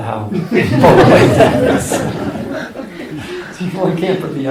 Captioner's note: laughter